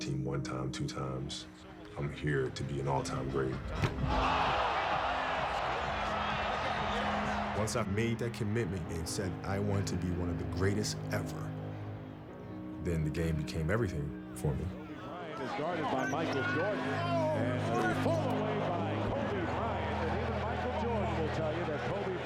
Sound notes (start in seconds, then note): 3.9 crowd erupts in cheers